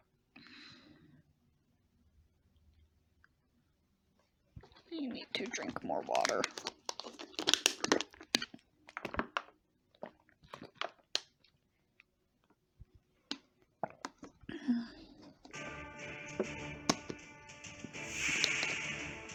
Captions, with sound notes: I need to drink more water. (water bottle sounds)